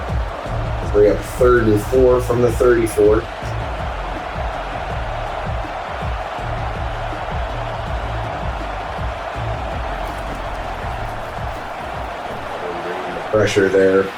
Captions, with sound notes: [Crowd Noises] We have third and four from the 34. [Crowd Noises] Pressure there.